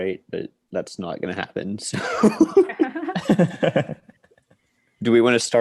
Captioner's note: laughing